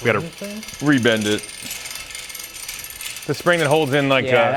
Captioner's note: metal clinking